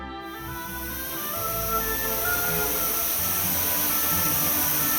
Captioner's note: machinery hissing